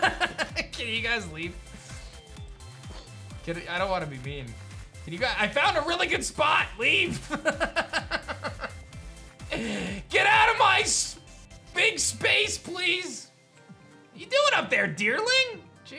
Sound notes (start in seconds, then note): 0.0 laughs; 7.2 laughs